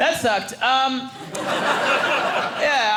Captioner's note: audience laughing